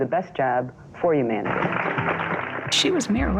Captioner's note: audience applauding